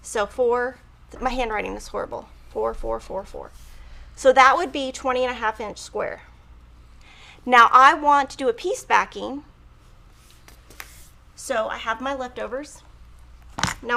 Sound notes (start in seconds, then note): none